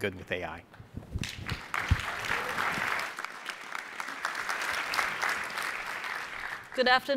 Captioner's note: applause